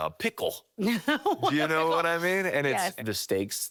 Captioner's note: laughing